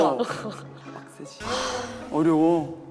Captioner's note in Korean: 하아